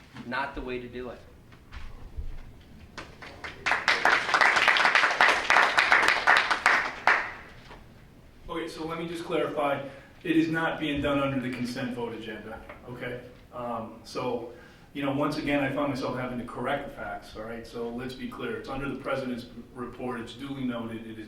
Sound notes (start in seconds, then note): 2.9 audience members clapping